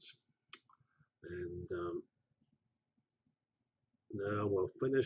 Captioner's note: pause